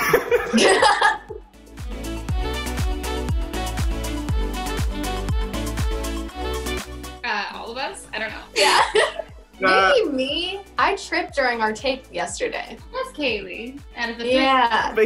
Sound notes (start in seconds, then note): 0.0 Quincy and Kaylee laughing; 1.0 upbeat music; 8.6 Kaylee and Danielle laughing